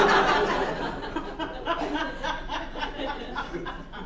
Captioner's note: captain laughs